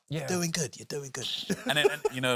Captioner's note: laughs